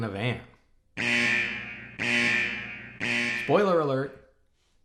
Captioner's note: alarm blares